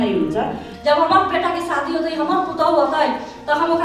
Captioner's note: in Bajika